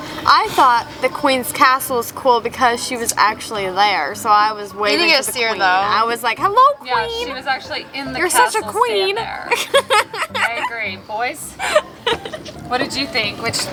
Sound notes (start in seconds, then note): 9.9 laughs